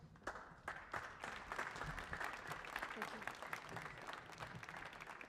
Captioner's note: audience clapping